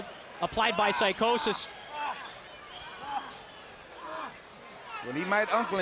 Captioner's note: Rey Jr groaning